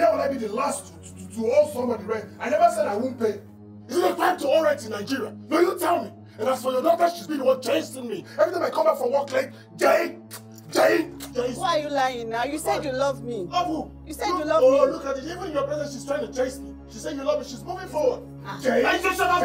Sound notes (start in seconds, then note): 10.2 kissing sounds